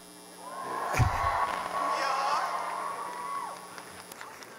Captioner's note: cheering